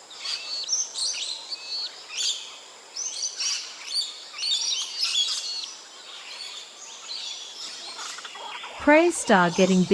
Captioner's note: bird sounds